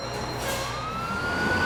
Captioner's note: sirens wailing